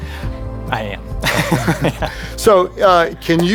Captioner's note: chuckling